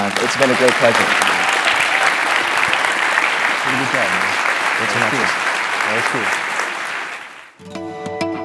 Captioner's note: applause